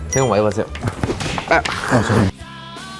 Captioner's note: thud